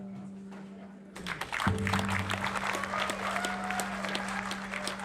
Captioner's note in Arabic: الجمهور يصفق